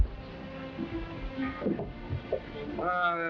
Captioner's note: glum music; footsteps thudding